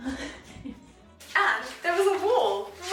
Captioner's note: chuckles